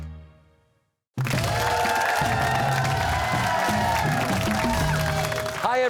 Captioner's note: cheers and applause